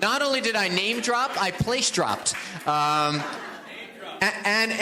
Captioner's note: audience applauds; audience laughs